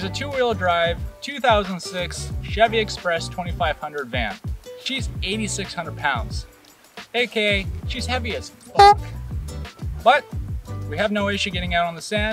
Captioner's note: honk